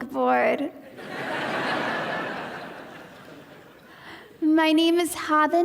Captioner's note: audience laughing